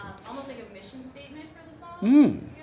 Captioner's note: voiceover